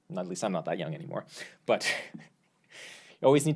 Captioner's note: laughs